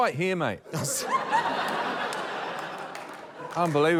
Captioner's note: laughter